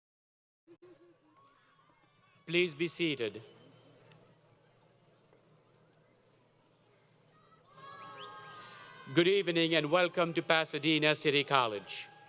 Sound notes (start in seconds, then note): 3.9 crowd Yelling Intermittently